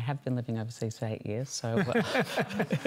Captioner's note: laughter